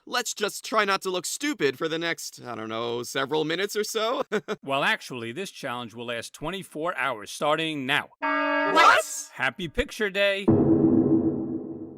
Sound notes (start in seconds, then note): 4.2 chuckles; 8.2 alarm